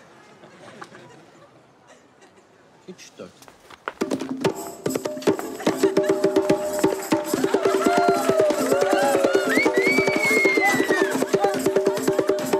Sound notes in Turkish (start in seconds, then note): 6.4 Alkış, ıslık